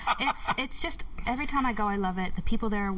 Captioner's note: laughter